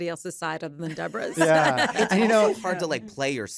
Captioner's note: laughter